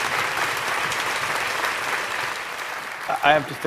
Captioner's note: applause ends